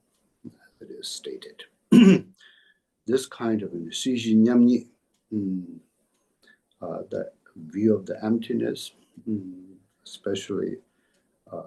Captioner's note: tibetan